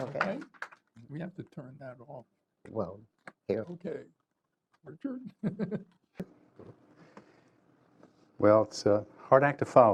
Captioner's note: applause